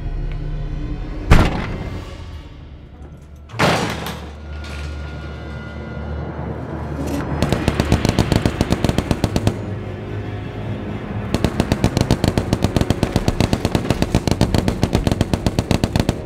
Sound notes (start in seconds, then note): 1.2 door thuds; 3.9 suspenseful music; 7.4 gun fires; 9.3 ominous music